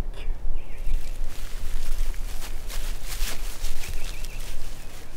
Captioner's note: leaves rustling